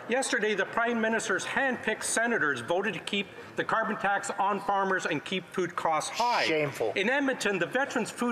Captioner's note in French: voix de l'interprète